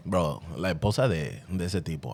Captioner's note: speaking In Foreign Language